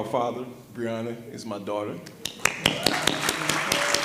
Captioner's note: audience applause